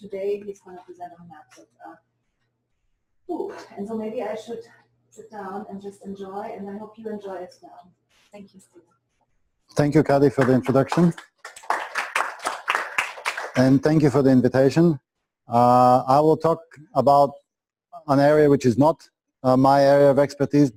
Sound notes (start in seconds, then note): 11.9 clapping